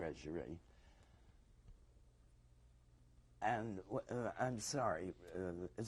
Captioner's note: pauses for 3 seconds